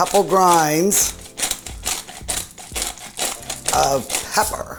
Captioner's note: pepper grating